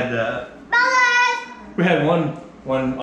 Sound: child shouts

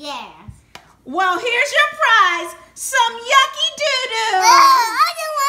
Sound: voiceover

